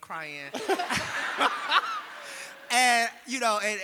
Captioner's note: audience laughing